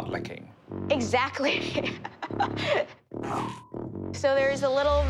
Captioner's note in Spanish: risas